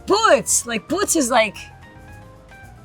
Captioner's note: speaks Portuguese